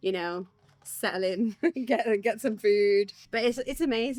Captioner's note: laughs